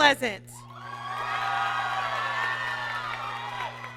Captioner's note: applause